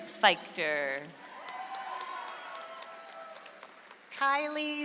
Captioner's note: audience applauds